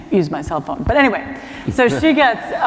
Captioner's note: laughter